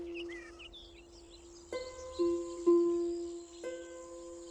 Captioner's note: birds chirping